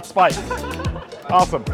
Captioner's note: students laugh